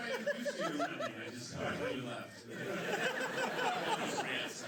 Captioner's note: laughter